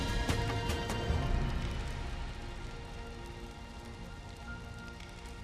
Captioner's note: flames crackling